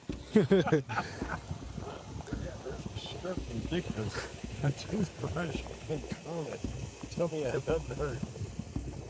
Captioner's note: laughter and indistinct comments